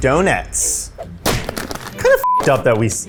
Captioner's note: Donettes smashing